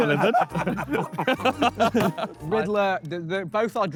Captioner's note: Sidemen laugh